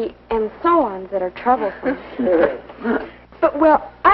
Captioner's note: chuckling